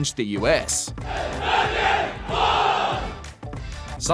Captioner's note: soldiers chant